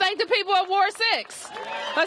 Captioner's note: cheers and applause